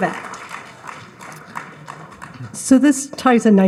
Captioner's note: audience applauds